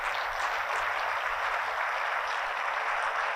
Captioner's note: applauding